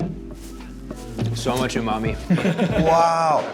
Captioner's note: group laughs